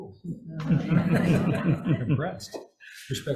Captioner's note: laughter